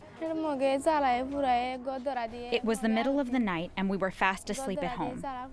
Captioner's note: through translator